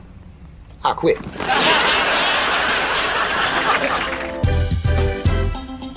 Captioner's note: audience laughs; upbeat Gospel music